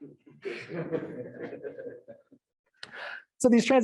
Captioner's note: audience laughing